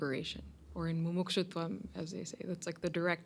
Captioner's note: hindi